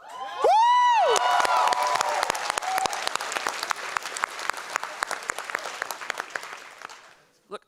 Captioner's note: audience cheering and applause